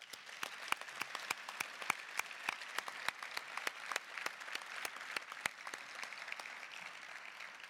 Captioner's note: applause